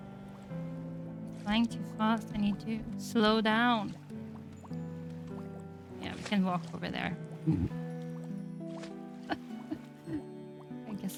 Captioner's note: laughs